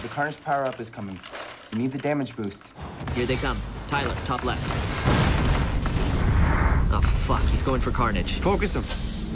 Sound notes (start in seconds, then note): 5.2 guns firing